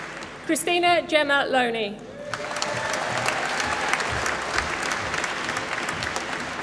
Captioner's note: applause